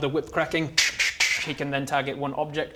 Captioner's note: tch tch tch